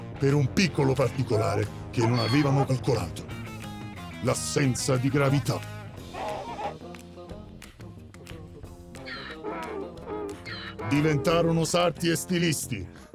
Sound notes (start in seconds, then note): 5.7 playful pop music continues; 8.9 Donkey's bray